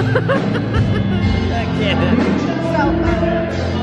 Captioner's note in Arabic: أبي يضحك